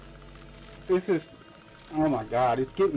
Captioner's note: glitch